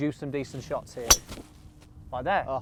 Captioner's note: thwack sound